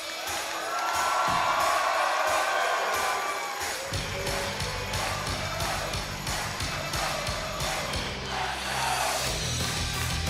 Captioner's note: crowd cheering; crowd chatter